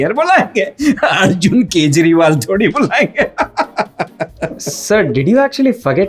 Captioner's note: laughs